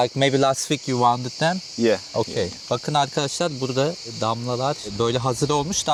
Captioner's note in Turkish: homurdanır